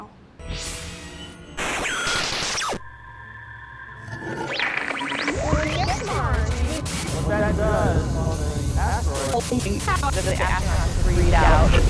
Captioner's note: sound Effects